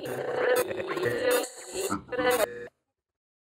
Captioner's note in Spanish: voz distorsionada